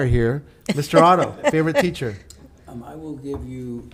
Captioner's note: laughing